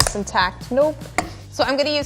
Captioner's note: cracks